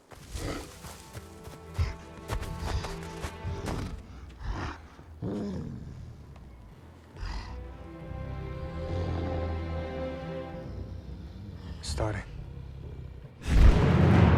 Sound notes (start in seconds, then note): 0.2 grunting; 8.0 growling